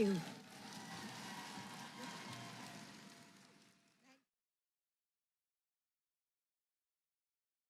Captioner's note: applause